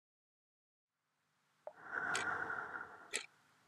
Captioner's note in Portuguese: som de respiração, relógio e pingo de gotas